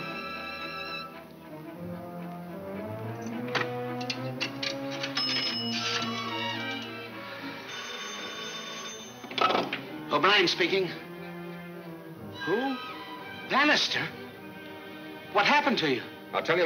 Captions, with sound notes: (phone rings) - O'Brien speaking. Who? Bannister? What happened to you? - I'll tell you later.